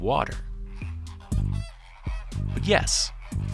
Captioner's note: flamingos honking